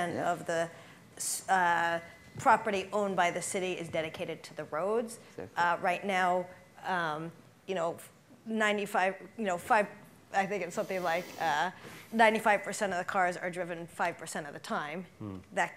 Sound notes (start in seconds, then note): none